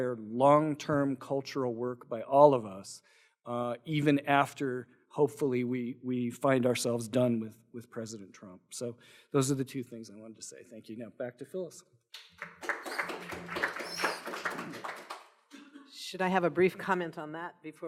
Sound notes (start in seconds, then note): 12.1 applause